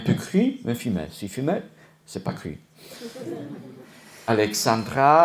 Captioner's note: laughter